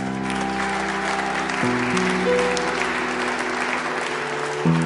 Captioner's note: people clapping